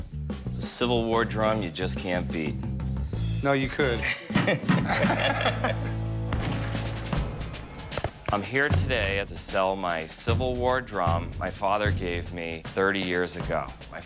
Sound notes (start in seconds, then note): 3.9 laughing; 4.1 gunshot; 6.8 drum music